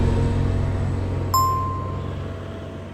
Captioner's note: announcement bell chimes